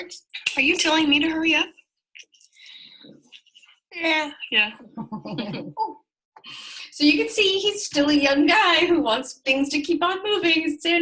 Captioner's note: laughter